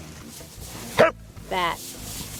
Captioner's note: dog barks